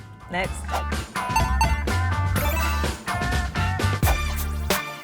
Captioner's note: digital ping